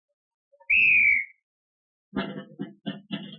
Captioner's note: whistle blows; drumming